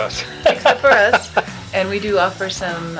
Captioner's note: laughing